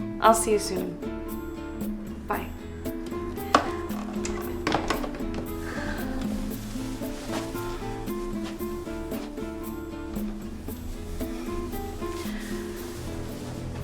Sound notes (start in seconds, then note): 3.5 phone receiver clatters; 7.7 mellow instrumental music